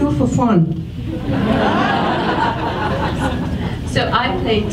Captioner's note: audience laughs